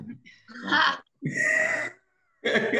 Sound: laughs; chuckles

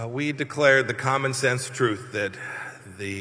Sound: none

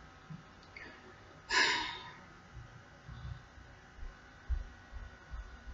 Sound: long sigh

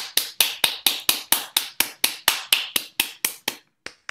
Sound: applause

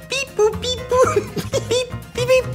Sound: laughter

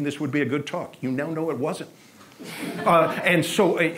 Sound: audience laughs

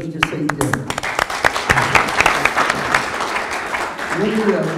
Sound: audience applause

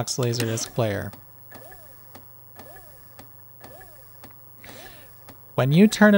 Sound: a repetitive fast whirring sound, like a small electric drill

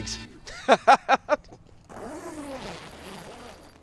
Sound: laughs

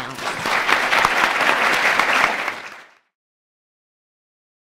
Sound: audience applauds

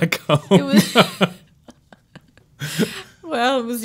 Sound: laughing

